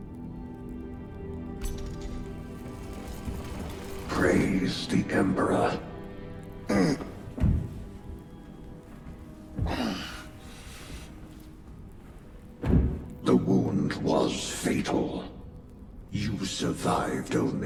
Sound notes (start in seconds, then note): 9.3 clears throat